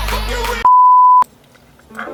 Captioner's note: beep